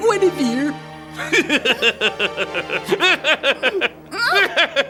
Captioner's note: cackling